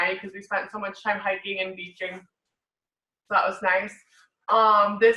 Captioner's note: none